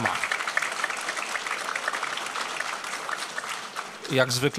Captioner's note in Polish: oklaski